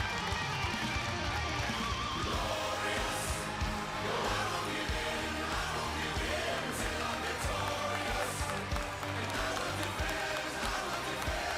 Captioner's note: cheers and applause